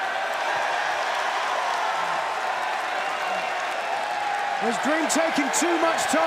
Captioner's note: crowd cheering